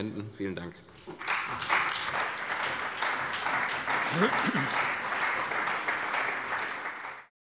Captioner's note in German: Beifall bei der CDU und dem BÜNDNIS 90/DIE GRÜNEN